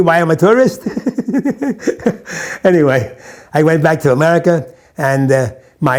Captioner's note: laughs